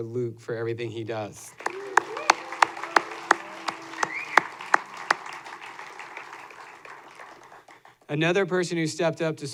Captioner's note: applause